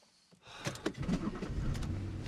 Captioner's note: engine rumbling; Derek sighs